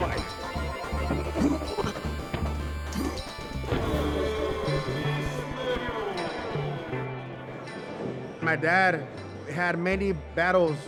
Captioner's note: video game-style chimes